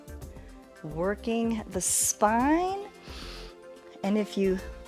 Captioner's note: inhales